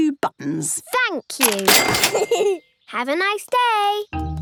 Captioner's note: giggles